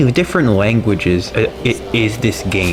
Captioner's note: stutter Moment